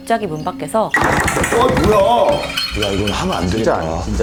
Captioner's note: thump